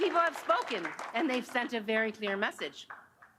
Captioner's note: applause